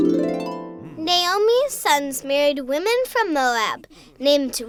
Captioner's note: voiceover